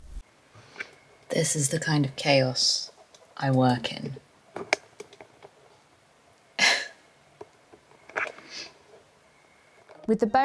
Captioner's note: laughs